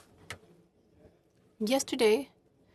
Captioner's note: speaking French